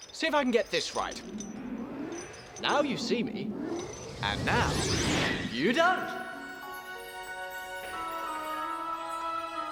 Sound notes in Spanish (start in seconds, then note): 3.6 zumbido; 7.1 música suave